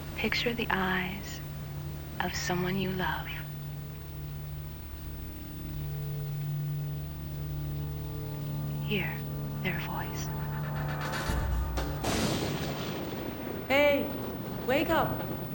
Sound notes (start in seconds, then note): 10.5 thunderclap